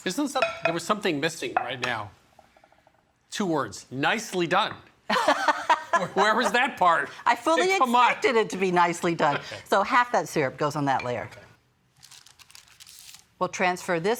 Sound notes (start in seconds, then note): 5.2 laughing